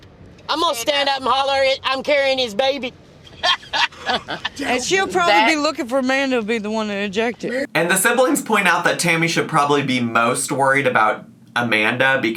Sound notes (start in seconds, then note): 3.3 laughs